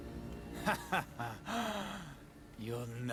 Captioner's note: laughs